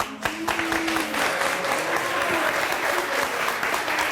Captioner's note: audience clapping